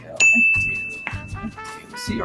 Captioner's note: bell dings